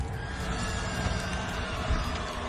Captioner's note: creature roaring; fire trickling